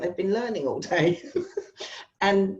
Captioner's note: laughs